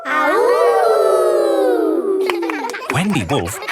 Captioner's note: howling; kids howling